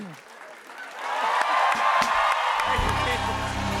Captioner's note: cheers and applause